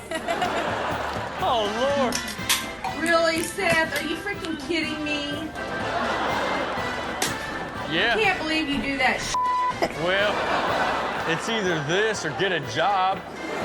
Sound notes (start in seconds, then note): 0.0 Chanel and audience laughing; 2.4 can clicking; 5.6 audience laughing